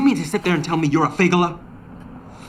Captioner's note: speaking in foreign language